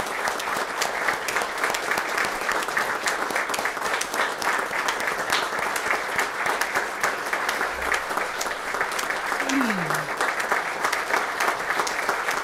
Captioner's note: applause